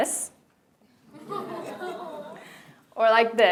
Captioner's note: laughter